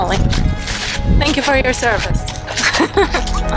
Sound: laughing

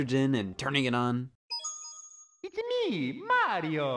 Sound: game beeps

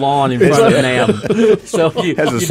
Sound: laughing

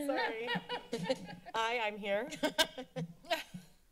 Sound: laughter

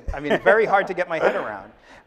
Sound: laughing

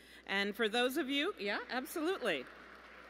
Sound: applause

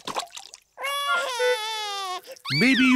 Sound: cries

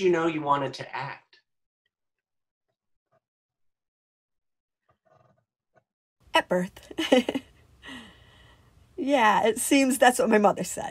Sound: laughs

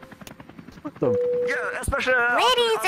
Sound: bing

